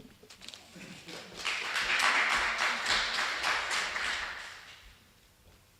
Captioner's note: applause